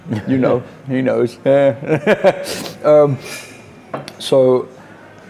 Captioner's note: laughs